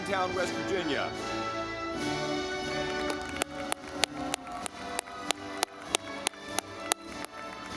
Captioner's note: audience clapping